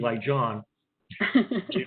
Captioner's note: laughter